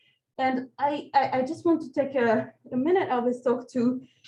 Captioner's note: none